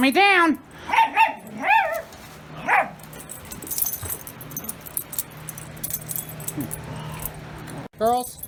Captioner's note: Caprice growls; Ella barks and growls